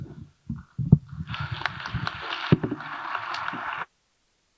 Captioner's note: audience applauding